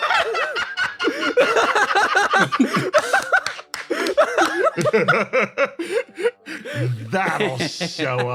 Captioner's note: laughs